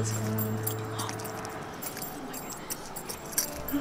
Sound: spurs jingling

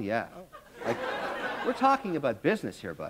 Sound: laughter

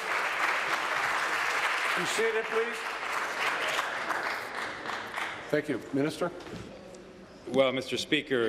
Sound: applause

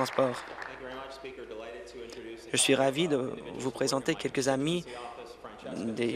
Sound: applause

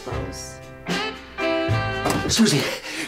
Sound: sultry

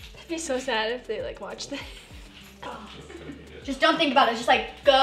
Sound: laughs

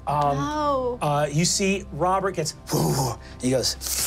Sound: growls

